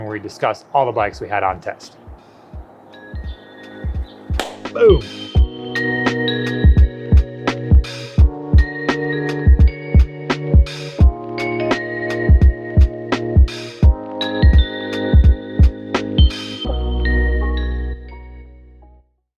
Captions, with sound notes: where we discuss all the bikes we had on test. (soft upbeat music) (claps) Boom!